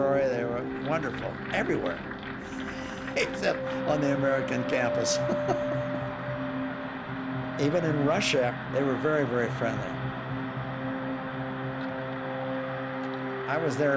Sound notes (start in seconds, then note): 2.4 chuckling